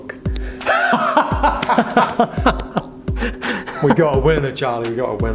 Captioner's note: both laughing